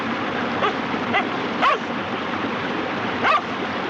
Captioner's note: barking